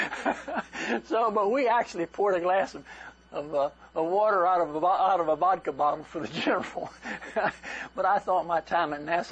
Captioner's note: laughter